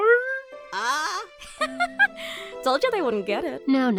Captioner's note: cabby laughs